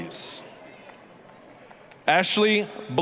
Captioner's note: applause